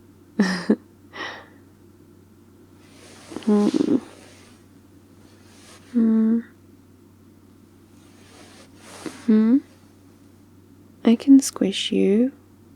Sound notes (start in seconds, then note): 0.3 laughs; 3.3 squish